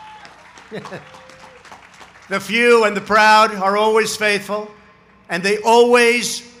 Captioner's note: applause